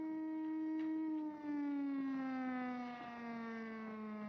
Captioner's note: siren Winding Down